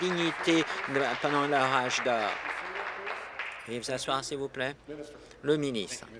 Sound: applause

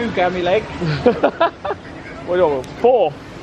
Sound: laughs

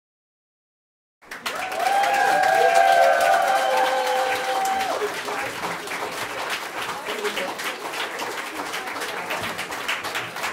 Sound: sound of applause

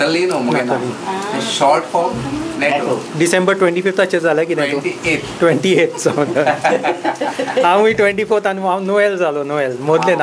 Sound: laughs

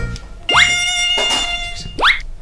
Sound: playing mosquito sound

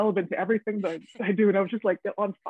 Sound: woman laughing

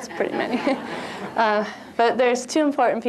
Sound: laughter

